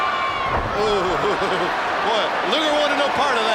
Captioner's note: footsteps plodding; laughs